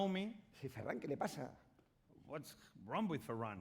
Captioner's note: speaking spanish